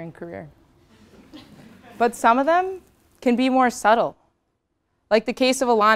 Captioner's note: laugh